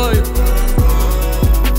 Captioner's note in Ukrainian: М-м